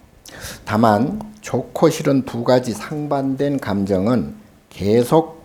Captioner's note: speaking Korean